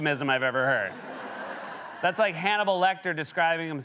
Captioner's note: laughter